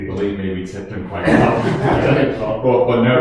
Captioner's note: laughing